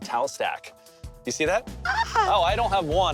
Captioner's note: woman's disgusted exclamation